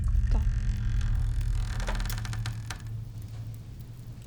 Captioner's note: door creaking